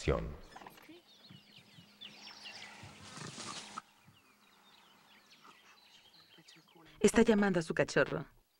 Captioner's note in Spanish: sonidos selváticos